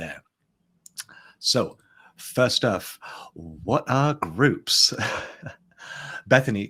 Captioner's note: chuckles